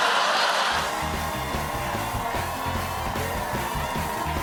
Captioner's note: cheers and applause